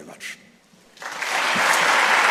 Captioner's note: applause